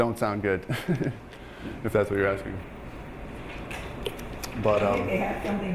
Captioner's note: laughing